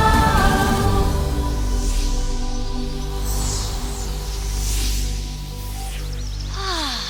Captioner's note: chimes and whooshes